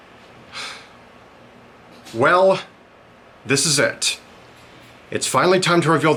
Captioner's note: sigh